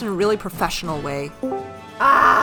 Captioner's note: Discord voice call sound